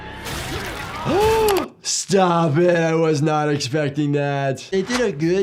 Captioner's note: gasps